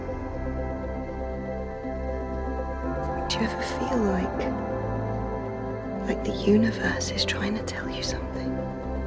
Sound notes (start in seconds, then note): 3.4 voiceover